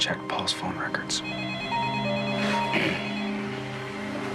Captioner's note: phone rings